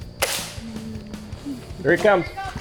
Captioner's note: airgun firing